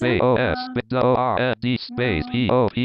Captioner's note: screen reader rushing, skipping